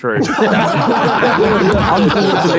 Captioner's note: group laughing